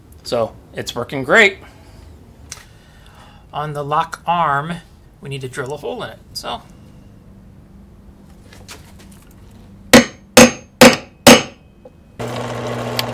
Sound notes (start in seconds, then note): 9.9 hammer banging; 12.2 drill noise